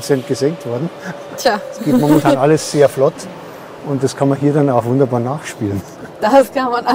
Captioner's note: laughter